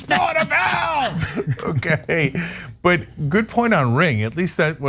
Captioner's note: laugh